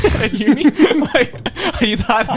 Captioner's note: laughing